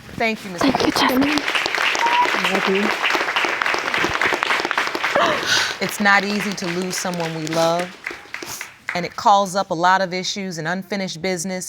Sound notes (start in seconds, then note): 1.4 audience applauding